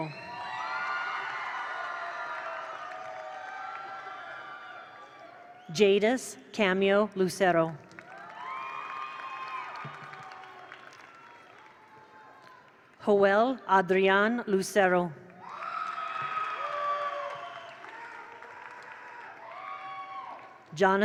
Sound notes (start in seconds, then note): 0.0 attendees cheer; 0.2 attendees applaud; 7.8 attendees applaud; 8.0 attendees cheer; 15.4 attendees applaud; 15.4 attendees cheer